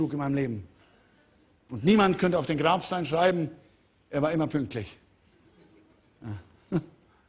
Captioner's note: Lachen